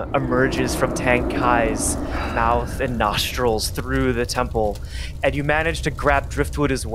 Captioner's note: fire sfx begins